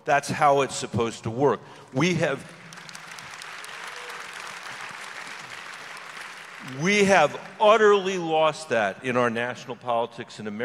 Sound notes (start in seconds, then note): 2.0 audience applause